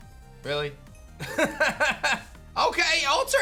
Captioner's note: laughs